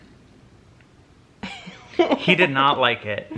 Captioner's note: laughing